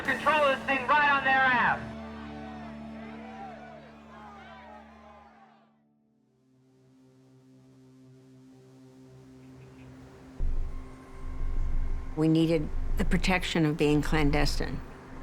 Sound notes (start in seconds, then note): 2.7 protesters shouting